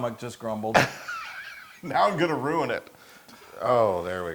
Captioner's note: laugh